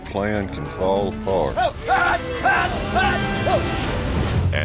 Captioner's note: shouting